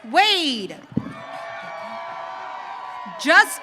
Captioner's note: audience cheering